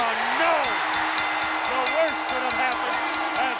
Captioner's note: crowd cheering; belling ringing